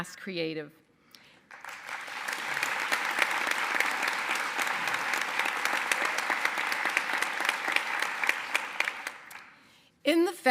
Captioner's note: applause